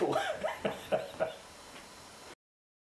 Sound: chuckles

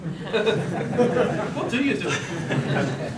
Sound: audience chuckles

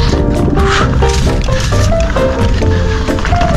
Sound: bike rolling

